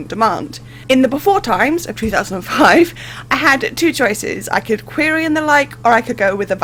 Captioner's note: laughing